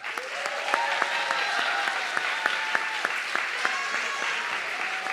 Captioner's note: audience clapping and cheering